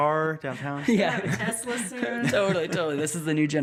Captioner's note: all laughing